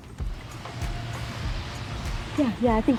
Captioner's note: car engine revving